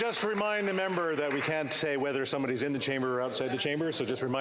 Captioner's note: some Applause